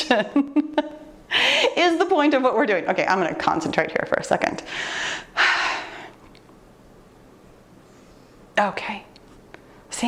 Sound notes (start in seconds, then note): 4.7 exhalling